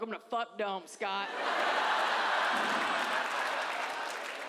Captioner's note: audience laughs